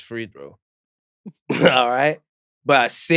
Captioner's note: chuckles